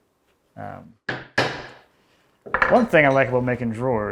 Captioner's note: woods smacking